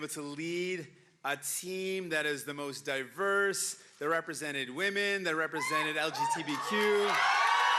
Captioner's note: cheering and Applause